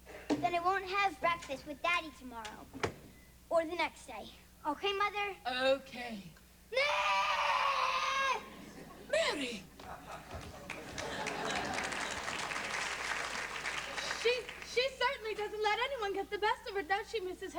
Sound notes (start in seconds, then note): 6.7 screams; 9.7 laughter and applause